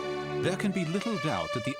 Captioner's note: voiceover